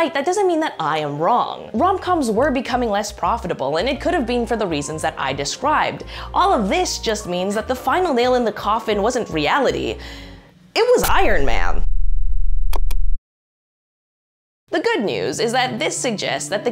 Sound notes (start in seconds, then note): 11.0 bomb blasts